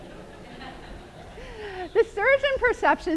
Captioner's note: laughter